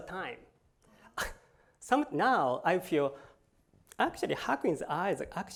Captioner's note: laughs